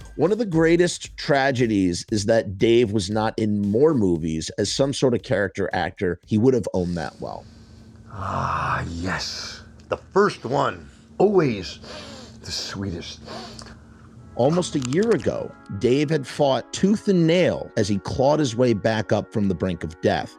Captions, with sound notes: One of the greatest tragedies is that Dave was not in more movies as some sort of character actor. He would have own that well. [Sniffling, deeply] Ah, yes, the first one! Always- [Sniffs passionately] The sweetest. [Sniffs passionately] Almost a year ago, Dave had fought tooth and nail as he clawed his way back up from the brink of death.